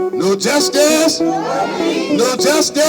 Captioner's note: protestors marching